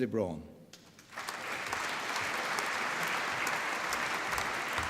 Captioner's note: applause